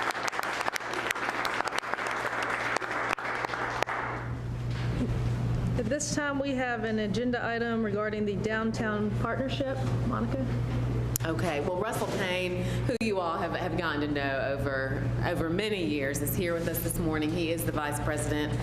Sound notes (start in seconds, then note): 4.8 applause